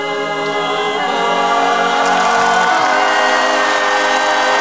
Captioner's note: audience cheering